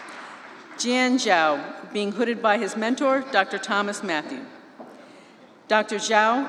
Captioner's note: applause